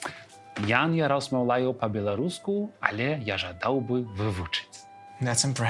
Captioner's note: in Belarusian